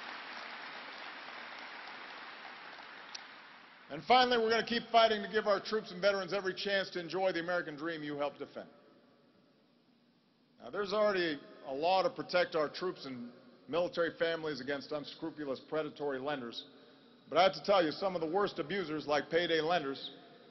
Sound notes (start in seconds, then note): 2.6 applause